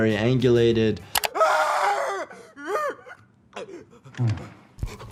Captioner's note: player screaming